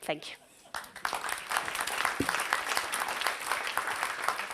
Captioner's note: audience applauds